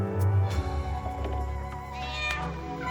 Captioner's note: eerie orchestral music; Marlee sighs; cat screeching